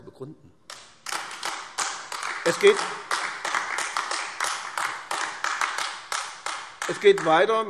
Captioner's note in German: Beifall AfD